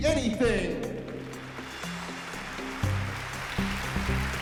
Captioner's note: applause and cheering